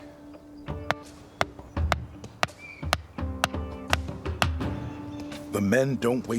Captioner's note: hammering